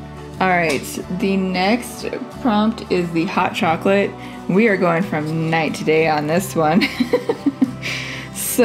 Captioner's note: laugh